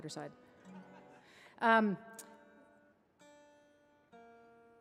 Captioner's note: audience laughing; guitar tuning